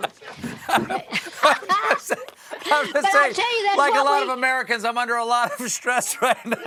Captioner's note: laughter